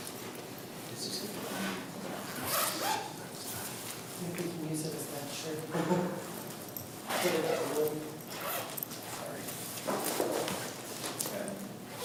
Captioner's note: group murmurs quietly